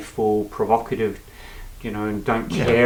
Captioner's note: breathe in noise